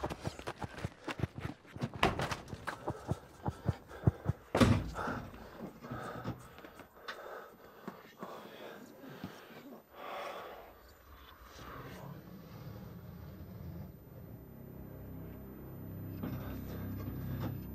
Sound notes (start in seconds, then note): 2.6 objects whirring; 6.7 person sighing